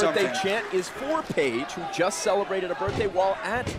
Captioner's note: crowd cheering